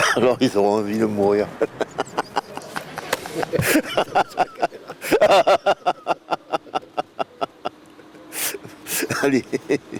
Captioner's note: laughs